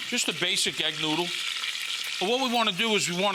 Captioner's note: oil sizzling